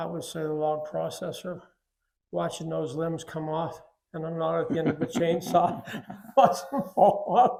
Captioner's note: laughs